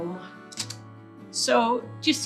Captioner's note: camera shutter clicks